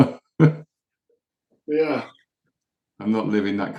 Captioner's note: laughs